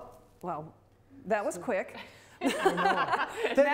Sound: both laugh

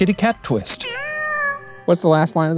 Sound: cat meows

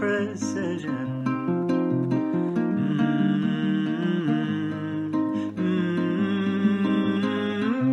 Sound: guitar plays; humming

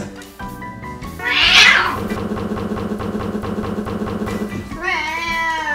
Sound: intense fighting

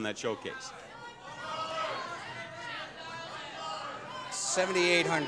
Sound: audience jeering

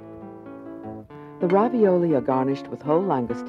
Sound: voiceover

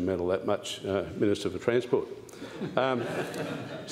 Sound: laughter

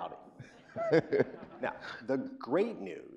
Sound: laughing

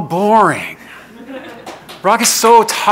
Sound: laughing

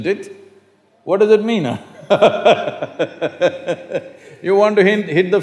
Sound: laughs

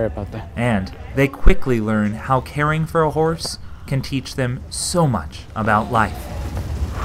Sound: student breathes deep

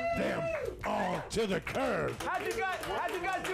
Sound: audience cheers

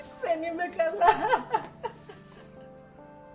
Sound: aphrodite cries

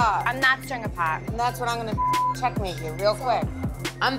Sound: beep

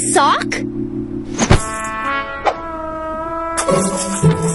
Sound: jingling

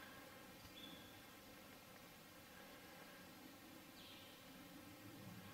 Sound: faint birds chirping

